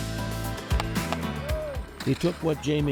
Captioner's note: stickhandling sounds